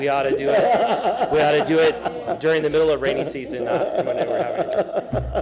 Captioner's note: laughter